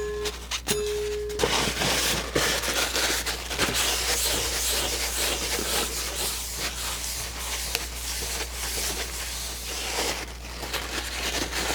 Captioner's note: ding